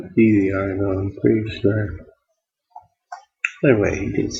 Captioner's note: mumbling to self about extension